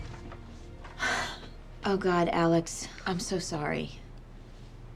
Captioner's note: exhales